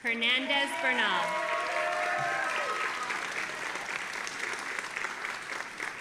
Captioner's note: audience applauding and cheering